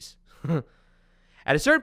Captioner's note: chuckles